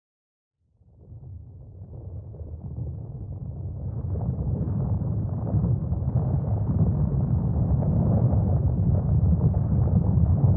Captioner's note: background sound like an earthquake